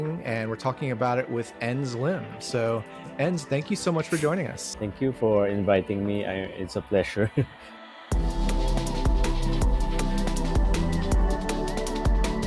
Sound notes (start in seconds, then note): 7.1 chuckles; 8.1 energetic electronic music